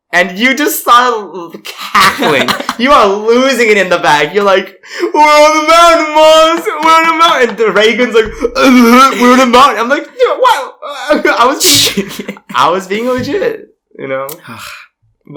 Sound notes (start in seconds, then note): 10.0 laughs; 10.7 stammers; 14.3 sighs